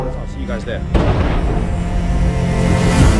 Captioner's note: explosion